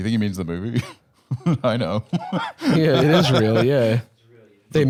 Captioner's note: chuckling